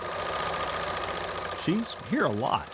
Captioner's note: machine whirring